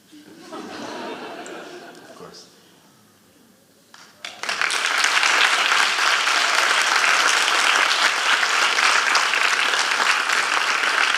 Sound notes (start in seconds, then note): 0.2 audience laughing; 4.0 audience applauding